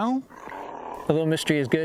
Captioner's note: feline roaring